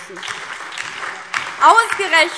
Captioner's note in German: Lebhafter Beifall DIE LINKE, BÜNDNIS 90/DIE GRÜNEN und SPD